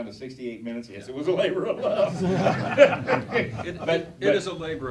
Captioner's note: laughing